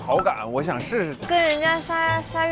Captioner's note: says it bluntly